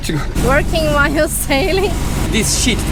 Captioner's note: motoring